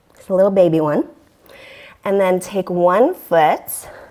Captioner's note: deep breathing sounds